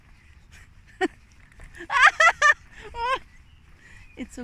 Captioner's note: laughter